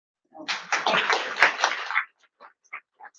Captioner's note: audience applauds